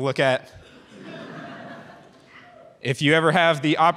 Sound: audience chuckles

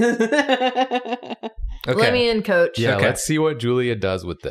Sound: laughs

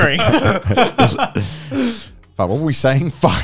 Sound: all laughing

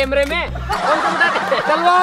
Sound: laughing

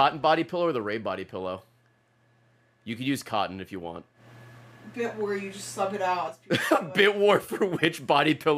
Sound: laughs

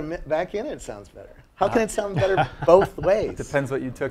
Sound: laugh

